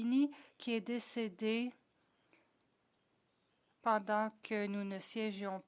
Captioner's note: speaking French